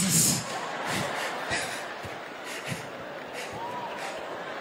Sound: audience laughing

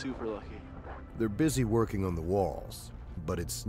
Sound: voiceover

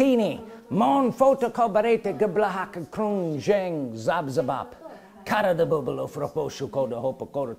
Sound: speaking in tongues

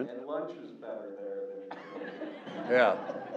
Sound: laugh

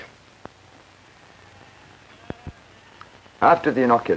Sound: sheep bleating

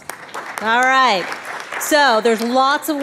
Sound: all applauds

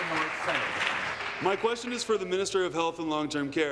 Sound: applause

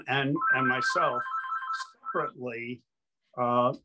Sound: telephone ringing

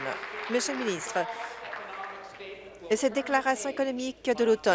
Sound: applause

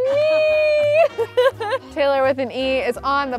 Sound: laughs

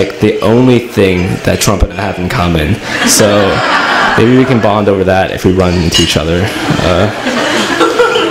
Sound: laughter

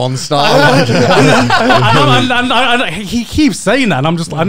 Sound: laughing

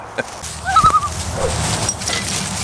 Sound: laughing; loon call

